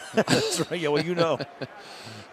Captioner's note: laughter